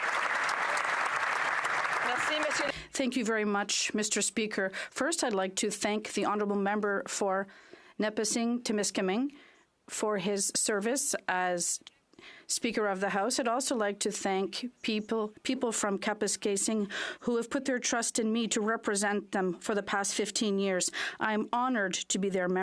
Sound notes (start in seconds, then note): 0.0 applause; 5.6 speaking French